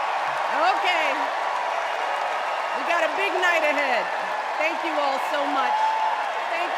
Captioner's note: cheers and applause